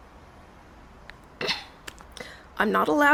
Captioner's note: clears throat